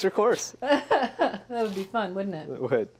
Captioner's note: laughs